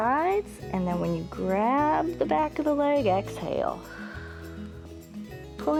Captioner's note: exhales